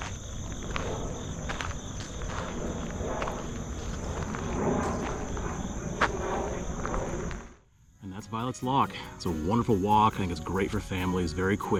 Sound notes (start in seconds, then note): 0.0 crickets chirping; 5.9 plane noise